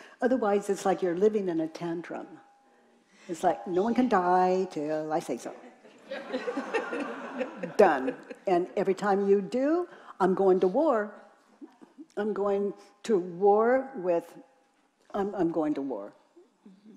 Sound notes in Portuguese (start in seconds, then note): 5.8 risos da plateia